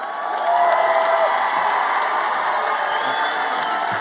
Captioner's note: everyone cheers